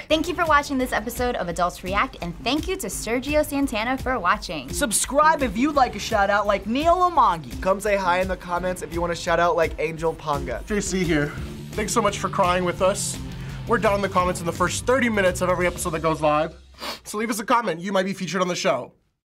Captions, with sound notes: - Thank you for watching this episode of Adults React. And thank you to Sergio Santana for watching. - Subscribe if you'd like a shoutout like neal omondi. - Come say hi in the comments if you want a shoutout like angel paunga. - (choked up) JC here. Thanks so much for crying with us. We're down in the comments in the first 30 minutes on every episode that goes live, (sniffles) so leave us a comment. You might be featured on the show.